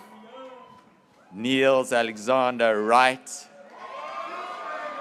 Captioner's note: graduates cheering